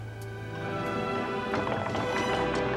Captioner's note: wood creaks